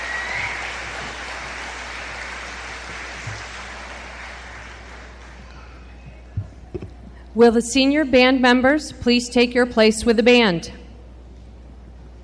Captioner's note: applause